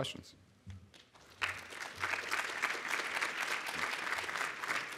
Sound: audience applauds

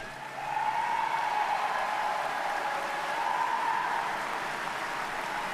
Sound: audience cheers and applauds

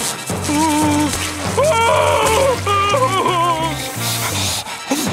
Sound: whimpering

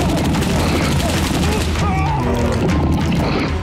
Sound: mummy growling; man screaming

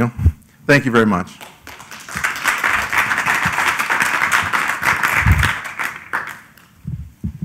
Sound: applause

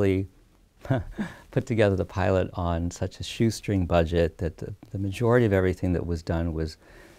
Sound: laughs

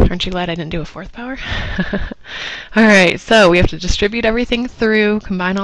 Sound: laugh

